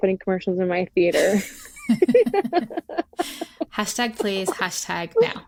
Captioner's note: laughter